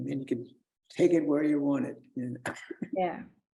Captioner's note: chuckles